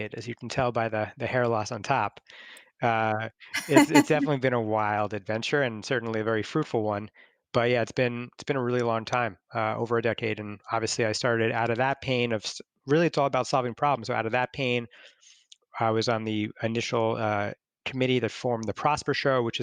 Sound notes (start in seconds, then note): 3.5 laughs